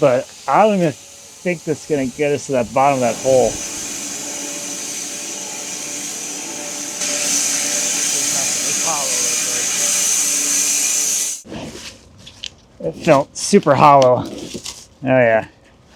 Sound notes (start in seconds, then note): 4.3 woodcutting machine hissing; 8.7 faintly speaking